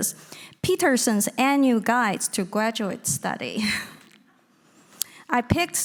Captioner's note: giggling